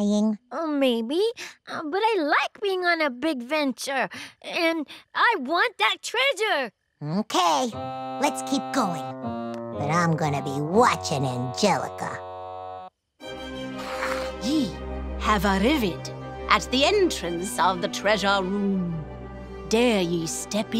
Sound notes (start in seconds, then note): none